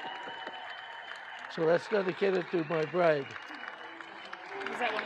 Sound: audience applauding

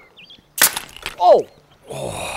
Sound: nail gun fires

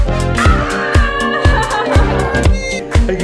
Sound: laughing

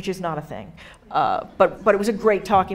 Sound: audience laughing

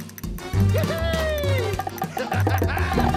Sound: laughing

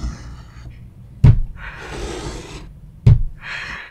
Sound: slow knocking

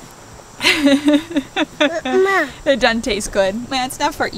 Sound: laughing

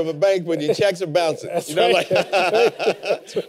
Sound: laughter

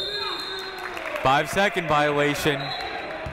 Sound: whistle blowing

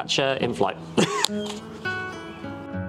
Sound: laugh

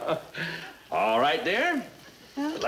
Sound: laughs

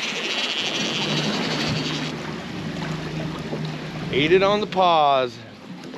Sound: reel spinning

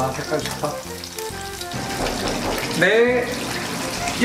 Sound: knock knock knock

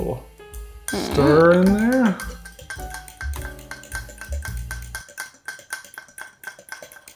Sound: fork clinking

